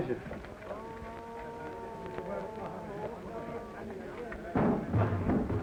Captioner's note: people chattering